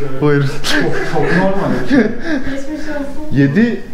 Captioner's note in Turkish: Gülüşmeler